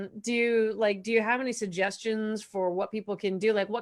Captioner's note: none